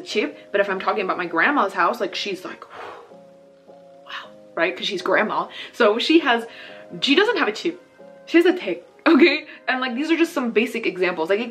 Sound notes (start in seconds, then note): 0.1 speaking Korean; 2.7 gasps; 7.6 speaking Korean